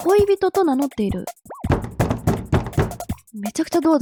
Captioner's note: sound of knocking on the door